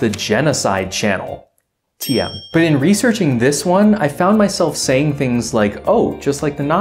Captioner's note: ding